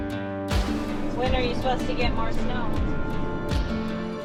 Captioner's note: on phone